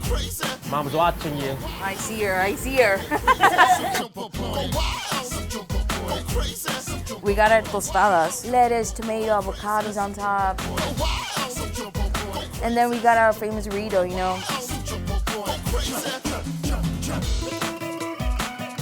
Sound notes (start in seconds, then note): 2.9 laughter; 15.7 upbeat rap music